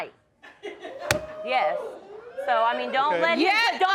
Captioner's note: crowd laughing and cheering